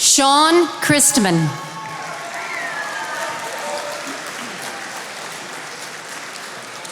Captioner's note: attendees applauding